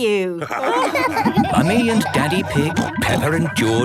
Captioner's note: all laughing